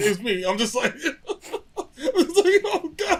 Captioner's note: laughter